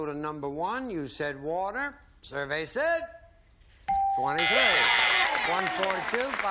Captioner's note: applause